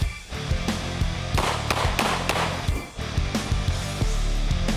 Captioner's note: intense rock music; gun popping